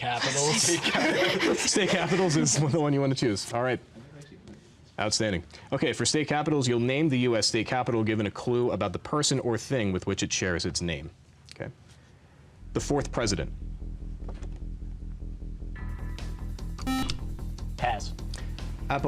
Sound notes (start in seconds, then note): 12.6 intense music; 16.8 beep